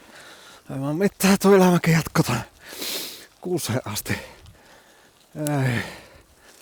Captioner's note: crying